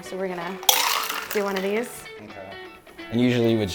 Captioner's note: ice hitting cup